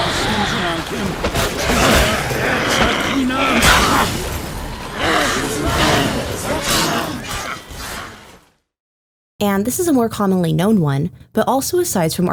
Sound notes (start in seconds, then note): 4.8 crowd